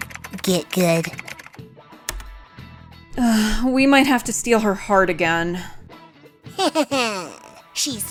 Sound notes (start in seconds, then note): 3.2 sigh